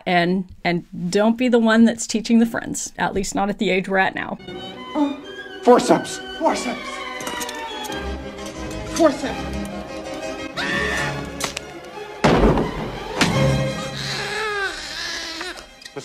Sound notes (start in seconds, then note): 8.3 metal clanking; 10.5 nurse 2 screaming; 12.0 baby crying; 12.2 door slams